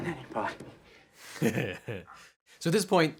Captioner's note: laughs